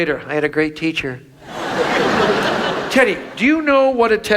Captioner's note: audience laughs